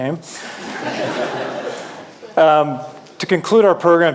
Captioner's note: audience laughing